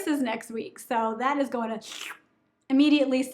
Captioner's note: sucking